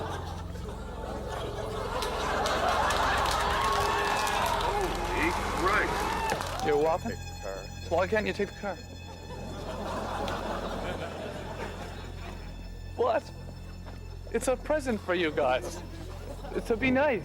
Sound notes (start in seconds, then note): 3.1 laughter; 5.8 applause